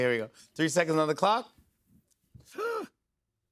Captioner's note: gasps